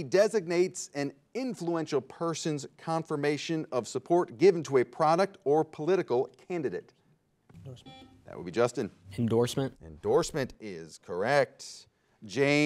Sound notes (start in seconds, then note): 7.6 bell rings